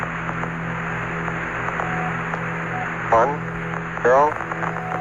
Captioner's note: static